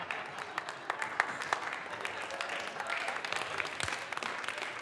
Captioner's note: audience clapping